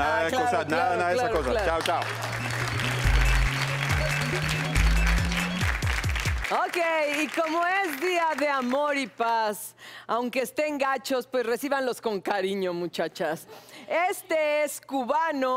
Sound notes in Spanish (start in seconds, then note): 4.0 Aplausos